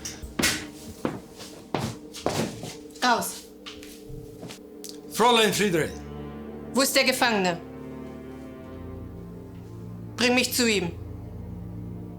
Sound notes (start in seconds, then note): 3.1 Fredriech speaking German